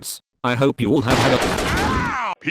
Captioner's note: shotgun Shot